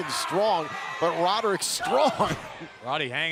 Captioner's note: crowd chatter